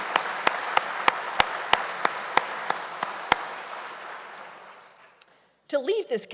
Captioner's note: applause